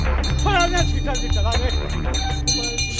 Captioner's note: intense bell’s sound